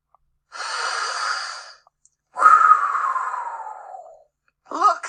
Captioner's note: deep inhale and exhale